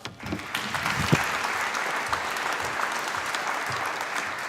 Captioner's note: applause